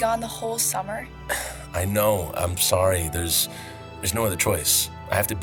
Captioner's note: sighs